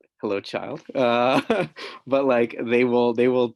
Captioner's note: chuckling